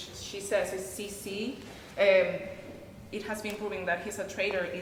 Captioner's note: speaking in a foreign language